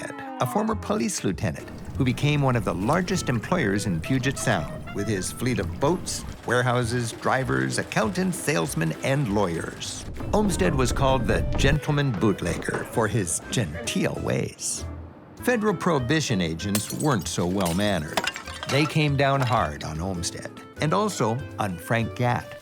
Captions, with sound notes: a former police lieutenant, who became one of the largest employers in Puget Sound, with his fleet of boats, warehouses, drivers, accountants, salesmen, and lawyers. Olmsted was called "the gentleman bootlegger," for his genteel ways. Federal prohibition agents weren't so well-mannered [glass breaking]. They came down hard on Olmsted, and also on Frank Gat,